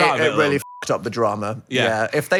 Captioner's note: beep